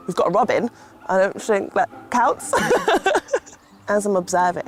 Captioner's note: laughter